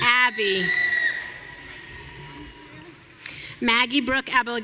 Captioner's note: audience cheering